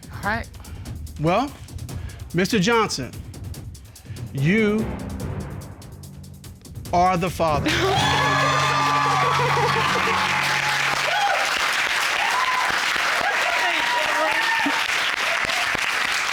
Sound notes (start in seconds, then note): 7.6 sobs; 8.4 audience cheer